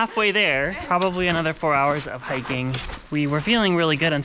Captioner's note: laughs